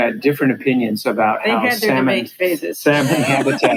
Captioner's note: laughs